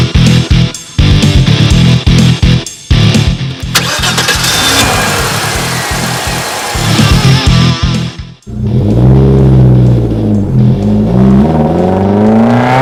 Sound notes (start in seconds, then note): 3.7 accelerating; 3.7 engine Starting; 8.4 engine Revving